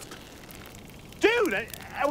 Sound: bow creaking

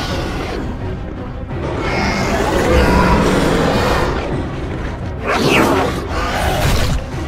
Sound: Scorpius Rex attacks

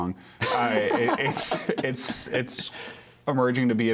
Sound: laughter

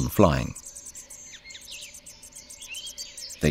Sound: sounds of nature

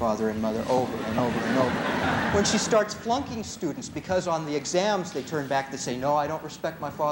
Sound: laughter

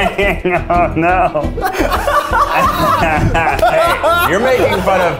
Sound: laughs

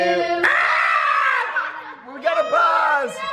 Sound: screams

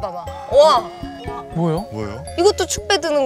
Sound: whispering

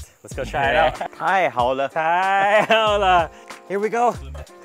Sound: speaking in foreign language

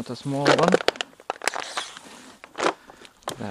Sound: loud crackle

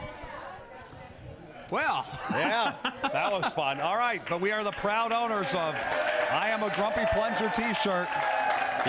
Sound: cheering; screaming

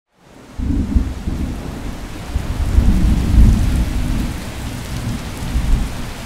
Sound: rain pattering; thunder rumbling

